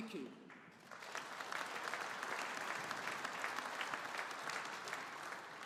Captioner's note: audience applauding